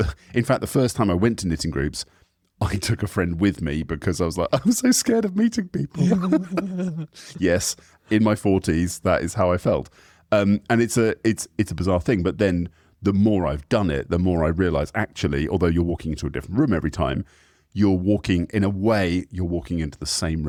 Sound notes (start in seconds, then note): 5.8 both laugh